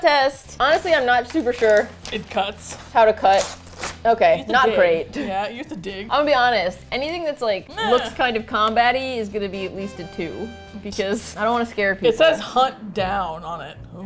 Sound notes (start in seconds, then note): 3.4 paper tears; 4.3 laughs